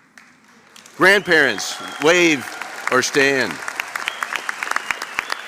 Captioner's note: applause